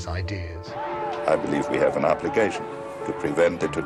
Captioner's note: shouting